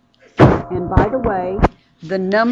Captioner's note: mic distorts